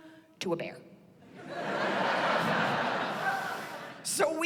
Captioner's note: laughter